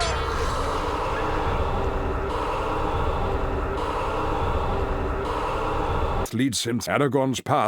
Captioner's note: sound effects are looping abruptly